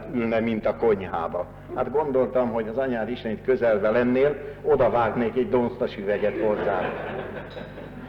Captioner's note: laughter